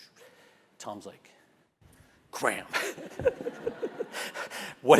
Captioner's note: laugh